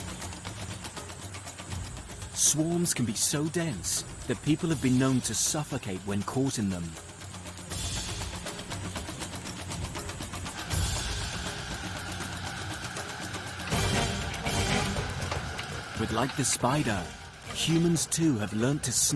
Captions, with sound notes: Swarms can be so dense that people have been known to suffocate when caught in them. (insects buzzing) (dramatic music continues) But like the spider, humans too have learnt to snare their share of the fly glut.